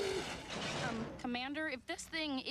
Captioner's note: crash